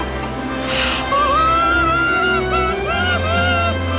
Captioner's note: screaming